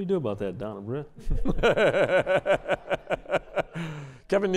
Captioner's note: laughter